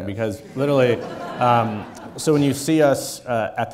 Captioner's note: audience laughing